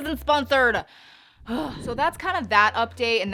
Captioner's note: panting